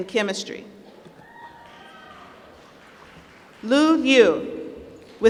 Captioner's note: applause